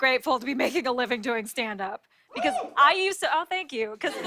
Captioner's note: scattered cheers